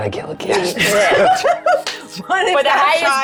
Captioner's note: group laughs